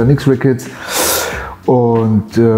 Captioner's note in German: Lautes Einatmen